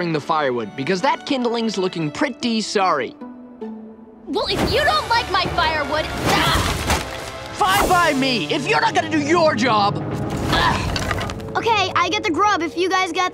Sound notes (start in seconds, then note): 6.1 grunting